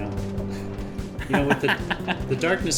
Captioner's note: laughs